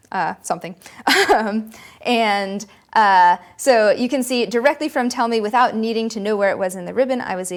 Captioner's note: laughter